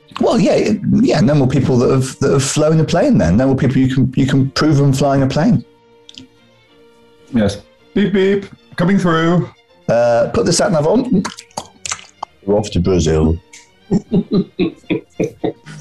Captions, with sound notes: Well, yeah. Yeah, no more people that've... ...that have flown a plane, then. No more people you can prove them flying a plane. Yes. "Beep-beep! Coming through!" "Er, put the sat nav on" [CLICKS] "We're off to Brazil," [CHORTLING]